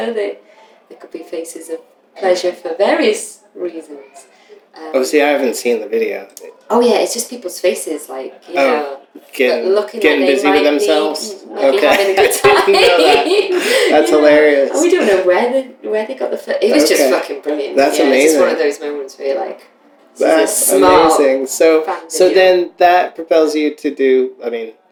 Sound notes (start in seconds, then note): 13.9 laughter